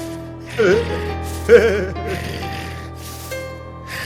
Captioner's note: Carl giggling